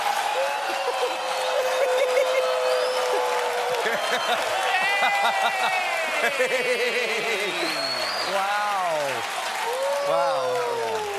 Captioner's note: cheering